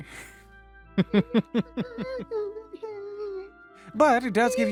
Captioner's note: ominous Laughter